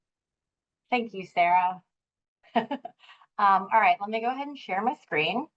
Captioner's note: laughing